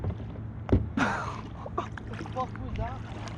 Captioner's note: apple thudding; laughs